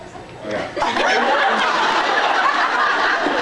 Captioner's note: laughs; evil laugh; laughs